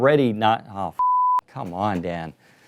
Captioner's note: beep